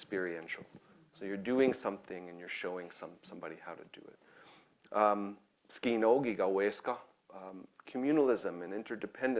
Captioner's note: speaking in own language